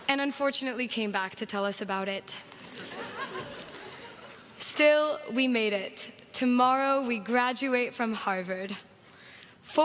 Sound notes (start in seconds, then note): 2.6 crowd laughs